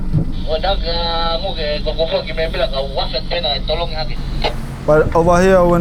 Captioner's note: man speaking in foreign language